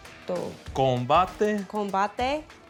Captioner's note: speaks in Spanish